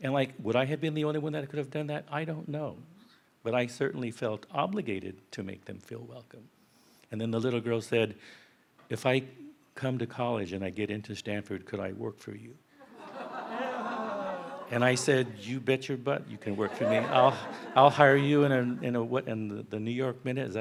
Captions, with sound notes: And would I have been the only one that could have done that? I don't know. But I certainly felt obligated to make them feel welcome. And then the little girl said, "If I come to college and I get into Stanford, could I work for you?" (audience laughs) And I said, "You bet your butt, you can work for me." I'll hire you in a... In the New York minute?